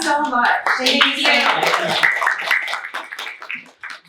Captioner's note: clapping